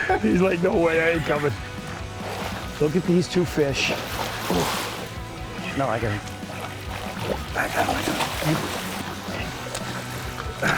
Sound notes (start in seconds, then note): 0.0 anglers laughing; 4.3 water splashing